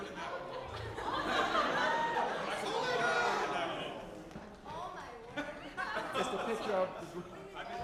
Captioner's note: audience laughing